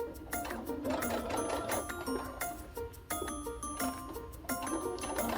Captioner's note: sewing machine hums